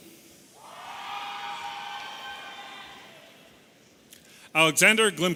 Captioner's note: audience cheering